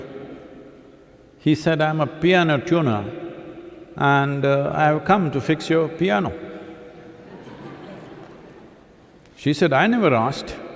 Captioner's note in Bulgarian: смях